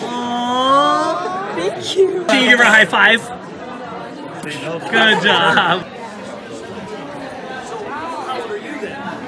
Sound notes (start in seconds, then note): 4.7 laughing